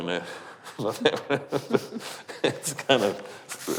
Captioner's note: laughing